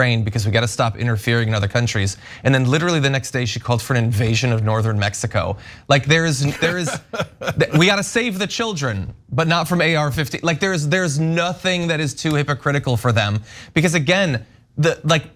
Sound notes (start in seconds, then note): 6.4 laugh